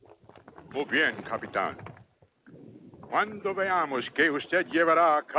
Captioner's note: Victorio speaks Spanish